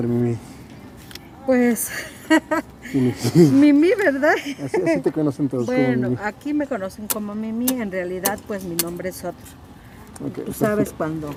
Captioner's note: laughs